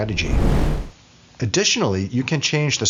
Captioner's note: whooshing